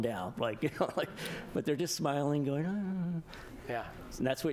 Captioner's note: laughter